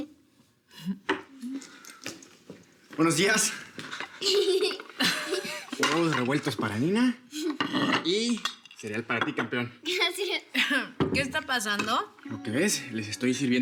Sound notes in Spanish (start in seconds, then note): 4.2 Risas